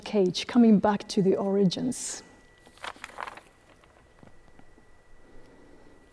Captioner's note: page rustling